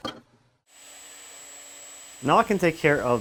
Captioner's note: router humming